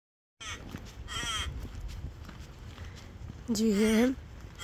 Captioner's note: crow cawing